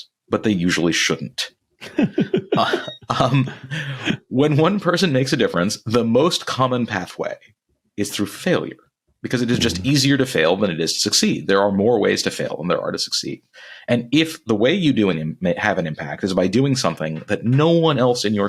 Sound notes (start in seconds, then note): 1.8 laughing